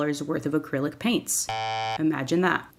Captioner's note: wrong buzzer